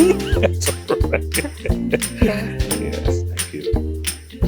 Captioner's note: laughing; bright instrumental music